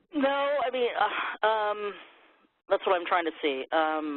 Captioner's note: sighs